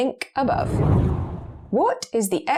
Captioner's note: video effect whooshes